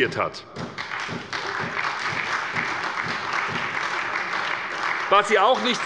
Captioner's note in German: Beifall bei der SPD